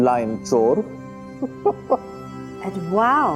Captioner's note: chuckling